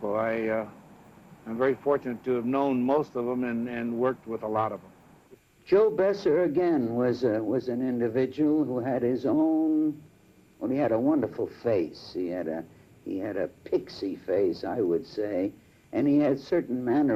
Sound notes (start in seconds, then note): none